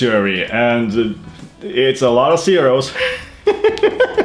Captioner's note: laughs